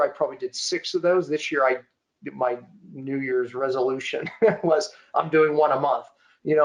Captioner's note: chuckling